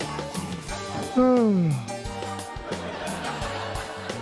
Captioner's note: yawns